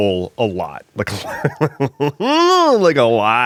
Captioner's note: maniacal laughter